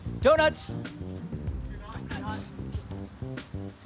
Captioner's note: whispers; light music